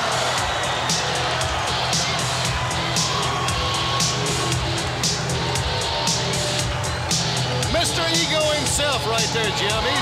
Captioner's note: crowd cheering